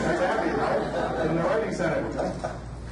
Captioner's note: audience laughs